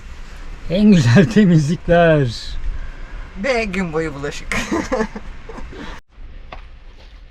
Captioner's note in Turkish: kahkaha